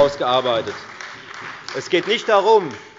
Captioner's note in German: Beifall bei der FDP und der SPD